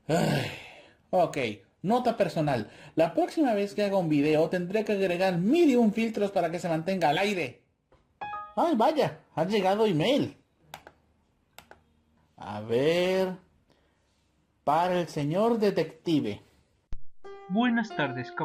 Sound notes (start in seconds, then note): 8.2 E-mail sound